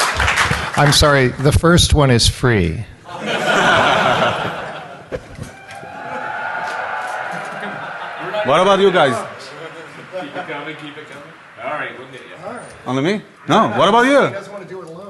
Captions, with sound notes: [Laughter] [Applause] >> I'm sorry the first one is free. [Laughter] >> What about you guys? No, what about you? Can you drink? >> I'm sorry don't we appear to be drinking? >> Maybe